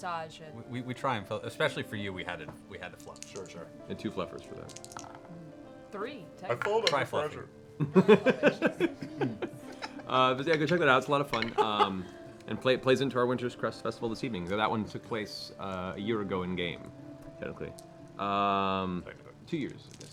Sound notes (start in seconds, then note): 7.8 laughs